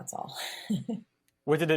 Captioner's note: laughter